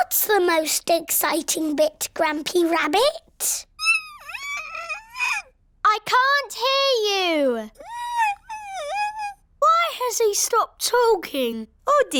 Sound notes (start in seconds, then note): 3.8 squeaks; 7.9 squeaks